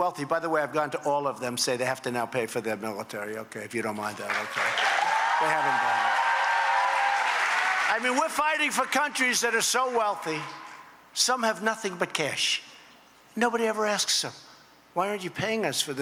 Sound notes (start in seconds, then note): 4.1 applause